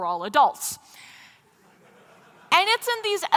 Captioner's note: laughter